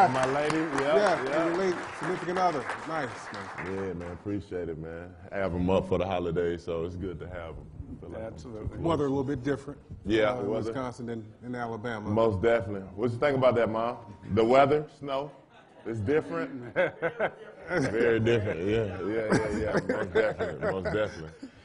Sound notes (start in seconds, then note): 3.4 applause